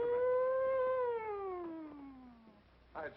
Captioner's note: making siren noise